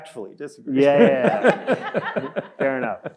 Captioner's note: audience laughing